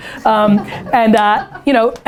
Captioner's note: laughter